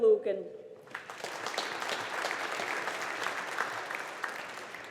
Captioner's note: audience applauding